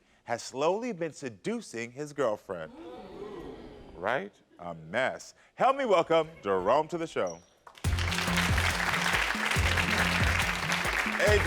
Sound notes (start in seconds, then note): 2.7 audience gasping; 7.7 audience clapping; 7.8 upbeat music